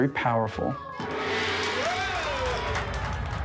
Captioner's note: gong and cheering